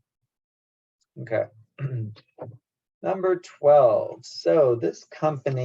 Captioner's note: cough